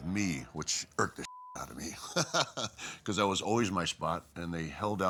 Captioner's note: laugh